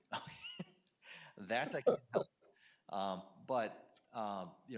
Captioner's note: chuckles